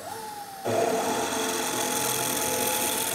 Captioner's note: high-pitched whirring, scraping